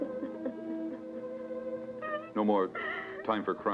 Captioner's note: Pilar crying